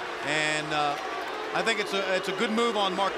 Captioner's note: crowd cheering